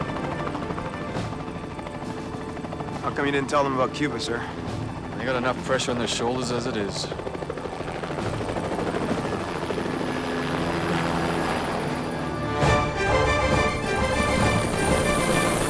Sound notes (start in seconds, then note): 7.1 helicopter whirring; 12.6 dramatic music playing